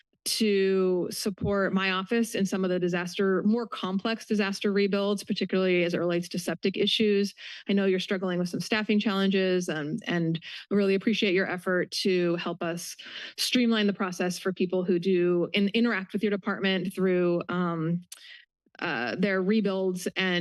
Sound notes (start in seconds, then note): none